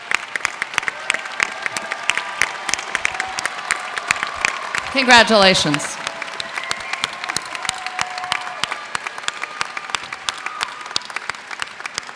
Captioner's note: applause